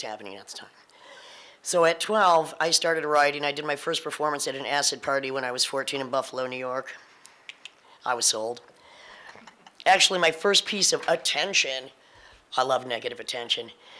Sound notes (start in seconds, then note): 7.4 tongue click